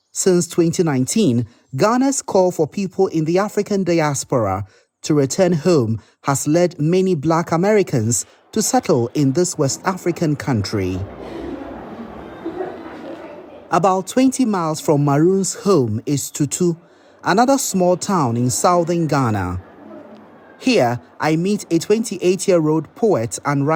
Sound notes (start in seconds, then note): 11.2 indistinct background chatter